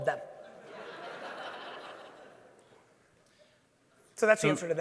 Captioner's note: audience laughing